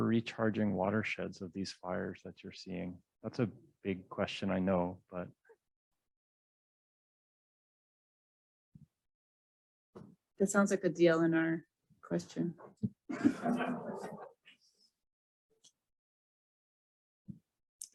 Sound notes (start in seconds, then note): 13.0 laughter